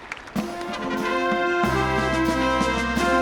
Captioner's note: cheering and applause